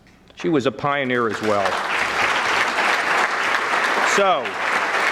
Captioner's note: audience clapping